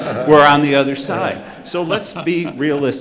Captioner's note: audience laughing